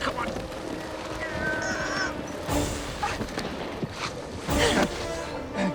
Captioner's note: both grunt